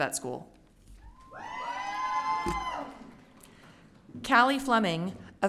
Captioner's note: audience cheering